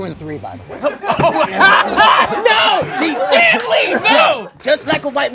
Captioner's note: laughs